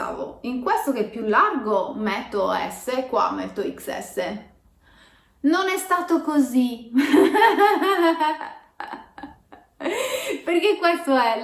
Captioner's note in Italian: risata